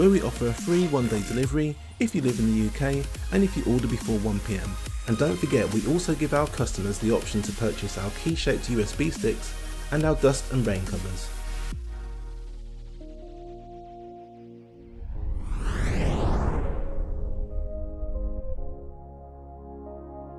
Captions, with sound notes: where we offer free one-day delivery if you live in the UK and if you order before 1 PM. And don't forget, we also give our customers the option to purchase our key shaped USB sticks and our dust and rain covers. (soft music) (whooshing)